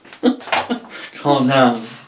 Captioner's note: laughs